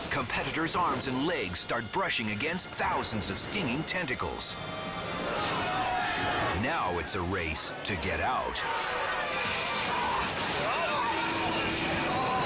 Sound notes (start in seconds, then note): 5.2 competitors screaming; 8.7 competitors chattering